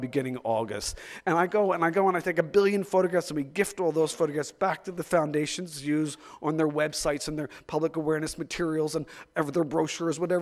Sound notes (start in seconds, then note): none